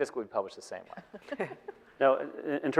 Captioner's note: laughing